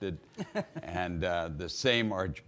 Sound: man laughing

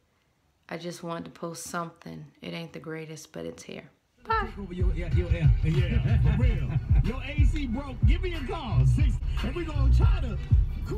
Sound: radio playing

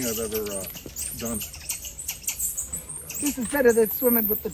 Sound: monkeys chattering

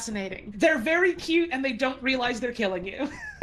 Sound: laughs

